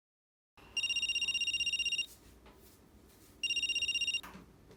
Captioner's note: phone rings